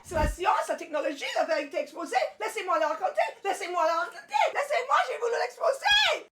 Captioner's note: Cassie screaming in French